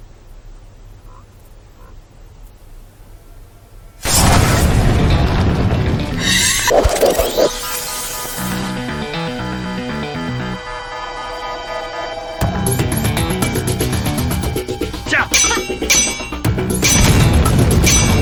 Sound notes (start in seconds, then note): 4.2 wind whooshing; 8.4 tense music; 15.3 both grunting